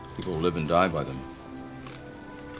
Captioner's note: crunching